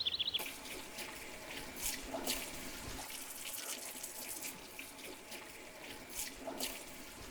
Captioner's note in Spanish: Agua corriendo